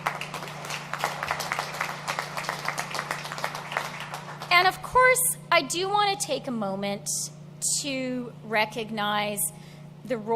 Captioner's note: applause